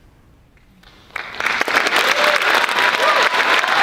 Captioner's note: applause